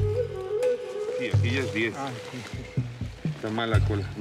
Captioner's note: Spanish language